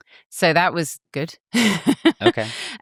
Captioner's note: laughs